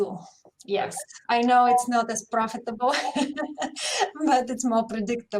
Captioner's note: laughs